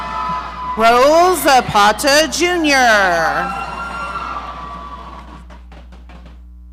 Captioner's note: audience cheering